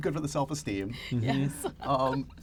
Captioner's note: laughs